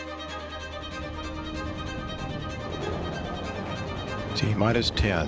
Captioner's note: rockets rumble